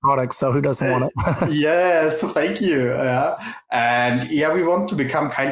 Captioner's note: laughs